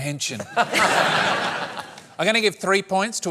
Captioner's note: laughter